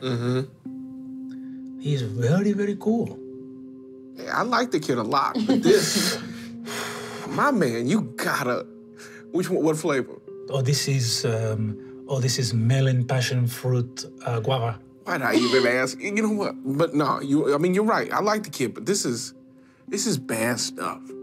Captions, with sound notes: - Mm-hmm. - He's very very cool. - I like the kid a lot. (inhaling) - My man, you got to... What flavor? - Oh, this is, oh this is melon passion fruit guava. - Why'd I even ask? But you're right, I like the kid, but this is bad stuff.